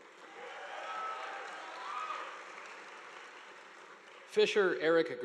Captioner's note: audience applauding